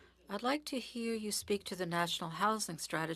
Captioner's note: speaking French